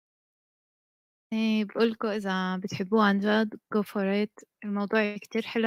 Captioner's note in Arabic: لغة أجنبية